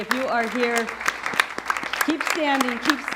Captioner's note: audience applauds